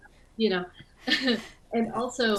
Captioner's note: chuckles